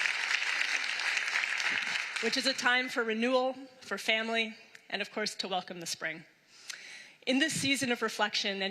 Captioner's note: applause